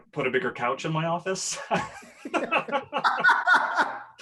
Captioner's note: laughs